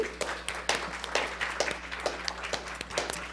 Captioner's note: applauding